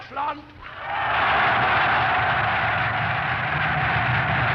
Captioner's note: loud cheering